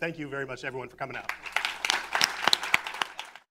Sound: applause

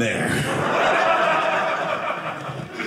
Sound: audience laughing

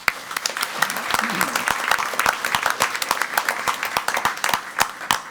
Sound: crowd clapping and cheering

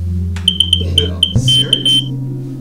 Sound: smoke Alarm Chirps aggressively

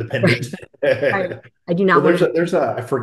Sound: laughing

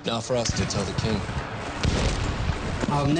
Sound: gun firing

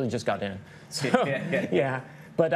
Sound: chuckling

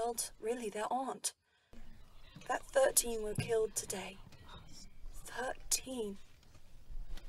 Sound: footsteps

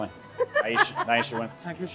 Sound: laughs

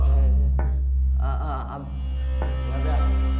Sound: stammers

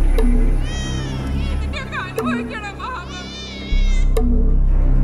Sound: woman crying

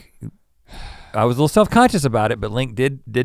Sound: sighs

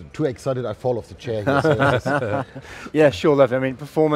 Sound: all laughing

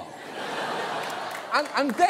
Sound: audience laughing

